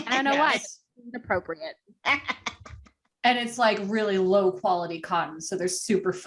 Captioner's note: evilly cackles